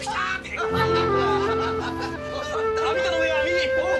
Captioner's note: laughter from the guests